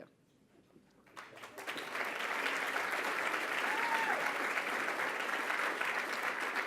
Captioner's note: applause